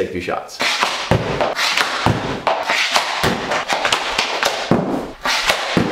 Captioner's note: stick scrapes against floor; puck thuds against backdrop